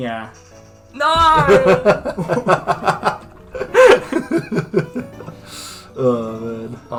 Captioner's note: laughing